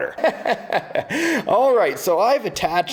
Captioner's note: laughs